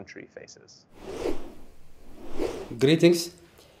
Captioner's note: logo whooshing